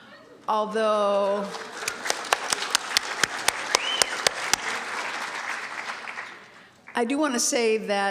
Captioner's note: applause